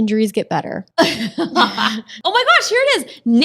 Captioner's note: ladies laughing